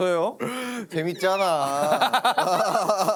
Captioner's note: can’t help laughing